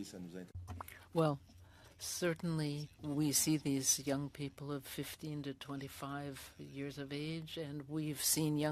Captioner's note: speaking French